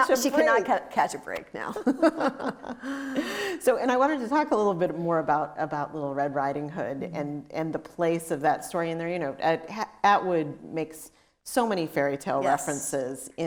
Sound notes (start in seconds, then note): 1.8 both laughing